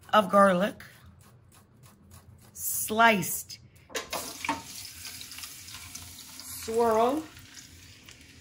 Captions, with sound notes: of garlic. Sliced. (garlic sizzles) Swirl.